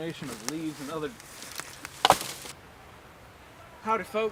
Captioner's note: logs thudding